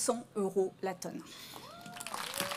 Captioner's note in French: Applaudissements